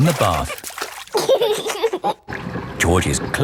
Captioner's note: giggling